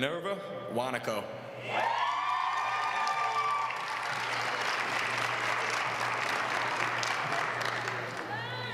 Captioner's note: applause